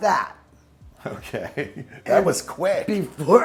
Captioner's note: chuckles